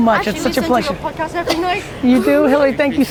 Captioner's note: speaks in a foreign language